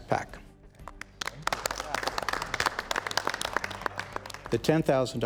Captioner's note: crowd applauding